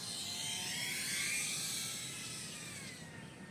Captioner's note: sound of flying machine